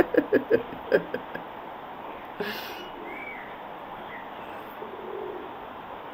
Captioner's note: laughter